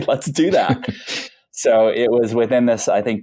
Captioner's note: laughing